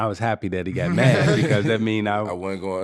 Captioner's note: laughing